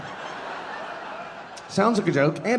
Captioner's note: audience laughing